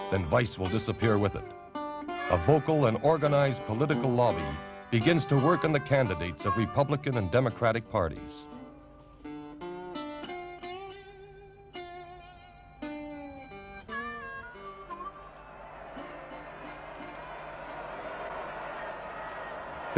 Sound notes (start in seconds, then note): 9.4 solemn music; 14.6 crowd cheers